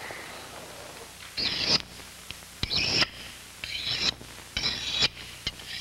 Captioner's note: blade makes unpleasant scraping sound against stone